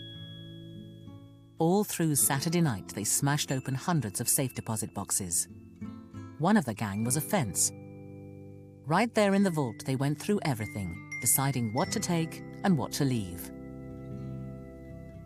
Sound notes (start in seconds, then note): 7.3 voiceover